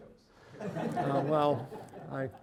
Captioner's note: audience laughing